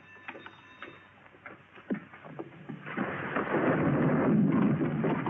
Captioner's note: flames roaring